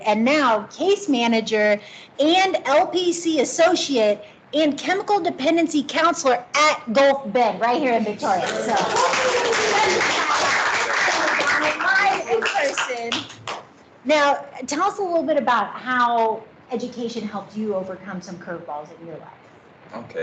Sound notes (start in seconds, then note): 8.7 clapping